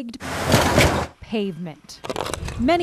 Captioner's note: tires clinking